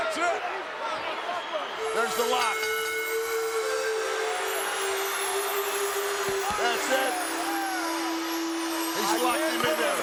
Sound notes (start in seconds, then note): 1.8 peaceful music; 1.8 bell rings